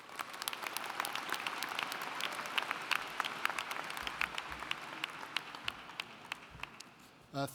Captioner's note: applauding